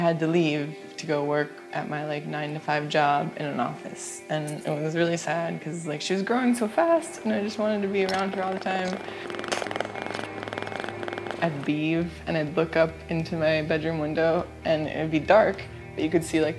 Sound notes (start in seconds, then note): 9.6 Pudge purrs